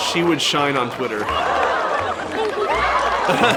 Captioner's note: cheers and laughs